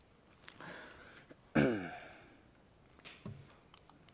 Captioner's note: clears throat